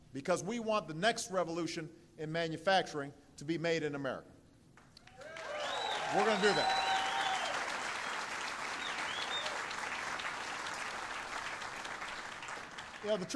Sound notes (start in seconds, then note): 4.6 applause; 7.8 applause